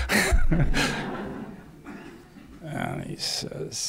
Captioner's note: laughter